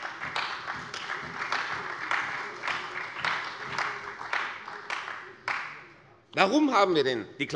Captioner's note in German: Beifall bei der CDU und dem BÜNDNIS 90/DIE GRÜNEN